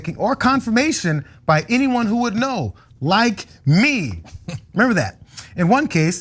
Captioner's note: laugh